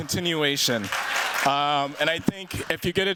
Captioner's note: cheers, applause